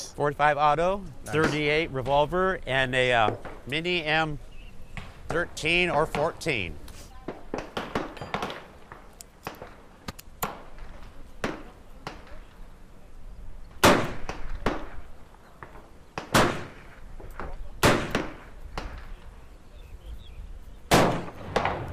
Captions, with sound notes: - 45 auto, 38 revolver and a mini M 13 or 14. [Gunfire] [Gun loading] [Gunfire]